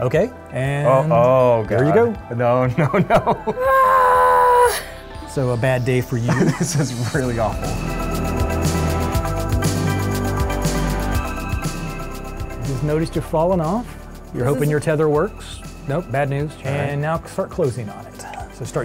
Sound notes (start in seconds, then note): 2.8 laughter; 3.6 mock screaming; 8.8 soaring electronic music